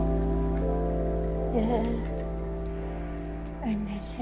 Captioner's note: scaredy noises